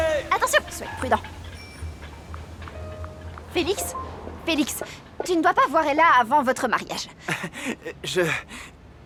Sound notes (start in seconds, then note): 2.2 bicycle bell ringing; 4.2 phone chiming; 7.2 chuckling